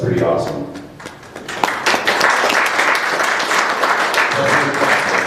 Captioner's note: applause